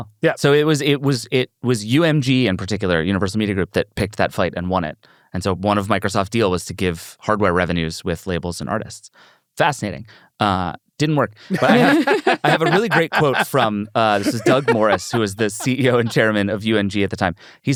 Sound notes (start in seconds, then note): 11.5 laughs